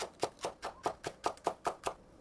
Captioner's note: chop chop chop